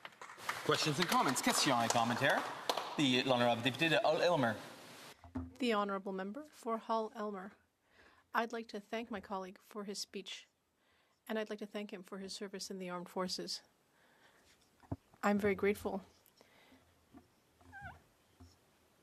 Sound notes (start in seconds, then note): 3.7 applause; 5.7 speaking French